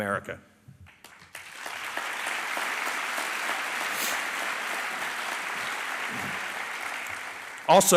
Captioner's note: applause